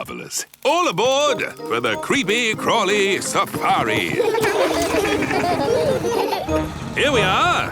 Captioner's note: laughing